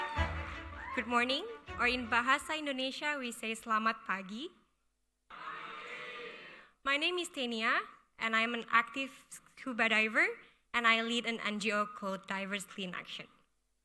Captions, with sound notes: Good morning, or in Bahasa Indonesia we say (speaking Indonesian). (audience replying in Indonesian) My name is Tenia, and I'm an active scuba diver. And I lead an NGO called Divers Clean Action.